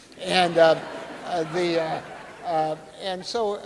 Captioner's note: audience laughing